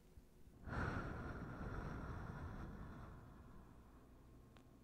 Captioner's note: deep exhale